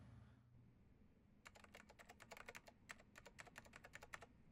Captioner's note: keyboard clacking